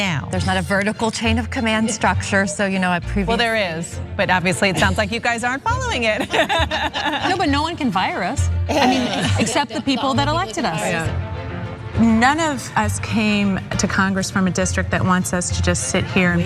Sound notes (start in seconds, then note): 8.6 laugh